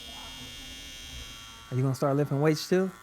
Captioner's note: hair clipper buzzing